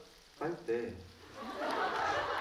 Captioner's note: laughs